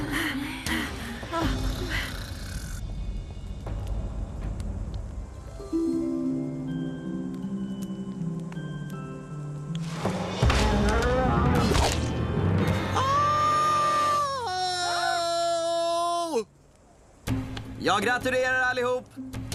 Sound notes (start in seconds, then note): 10.5 roaring; 12.9 screaming